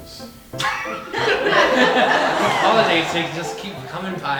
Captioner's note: audience laughing